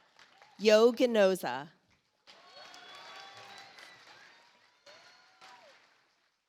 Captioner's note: audience applauds